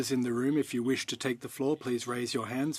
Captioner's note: speaking French